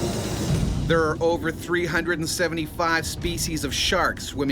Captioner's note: voiceover